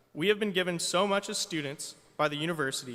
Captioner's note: none